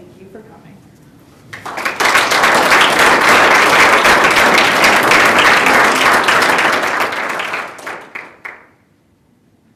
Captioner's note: audience Applause